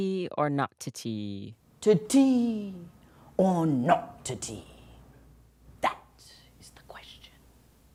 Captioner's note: soundbite of archived recording